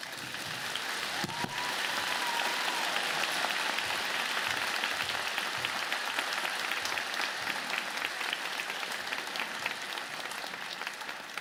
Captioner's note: applause